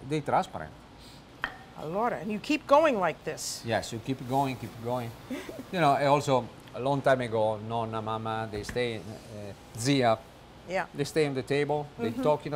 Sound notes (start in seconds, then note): 5.7 laughter